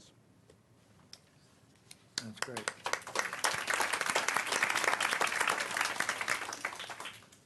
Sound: applause

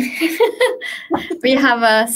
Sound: laughing

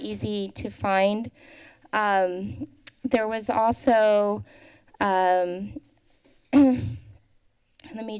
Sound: inhales; tongue clicking; clears throat

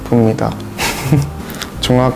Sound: laugh

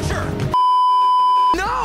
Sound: beeeeeep

